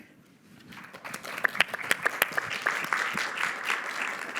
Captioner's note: applause